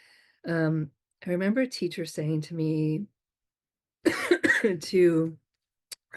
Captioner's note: coughs